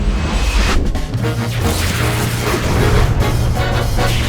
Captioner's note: robot whirs